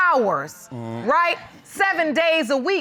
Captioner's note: groans